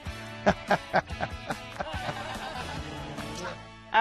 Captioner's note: laughs